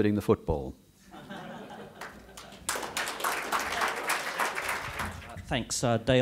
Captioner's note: chuckles and Applause